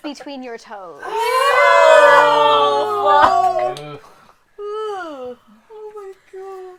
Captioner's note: extremely distressed noises and swearing